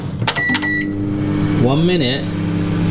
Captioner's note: microwave beeping